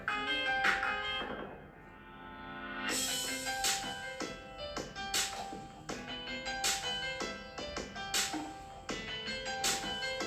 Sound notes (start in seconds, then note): none